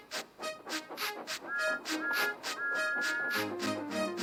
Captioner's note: toot toot toot